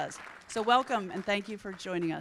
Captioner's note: audience applauding